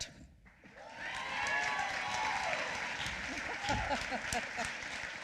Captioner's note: applause